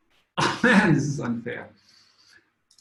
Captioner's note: chuckles